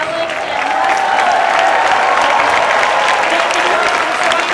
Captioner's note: audience applauds and cheers